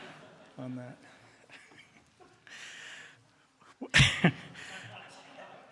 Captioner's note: laughter